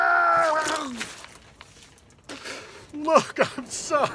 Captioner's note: shouting; splashing